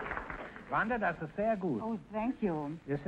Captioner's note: Groucho speaking German; Groucho speaking German